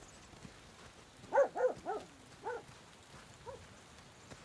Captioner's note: dog barks